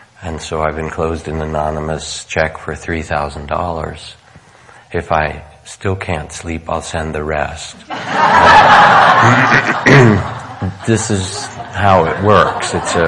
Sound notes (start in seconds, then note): 7.8 laughing